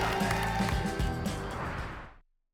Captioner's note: whoosh